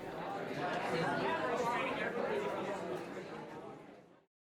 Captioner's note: students chattering